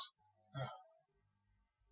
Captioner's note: sighs